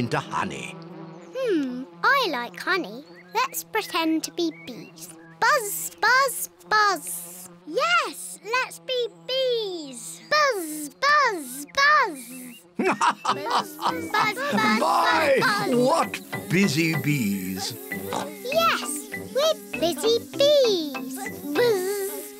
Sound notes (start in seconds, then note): 12.7 laughs; 17.9 oinks